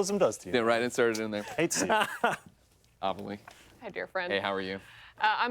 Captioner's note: laughter